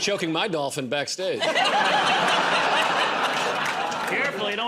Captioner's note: laughter